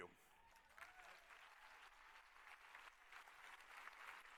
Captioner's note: applause